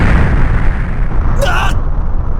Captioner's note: panicked cry